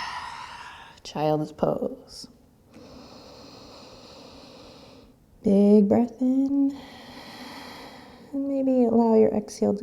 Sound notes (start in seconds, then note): 2.5 inhaling; 6.8 exhaling